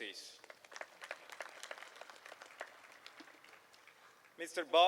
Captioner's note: applause